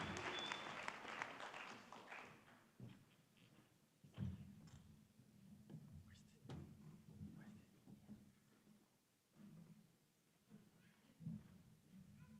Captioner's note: cheering and applause